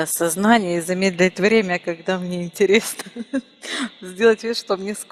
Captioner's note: laughing